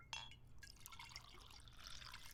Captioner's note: wine pouring